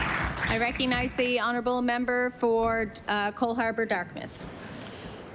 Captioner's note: applause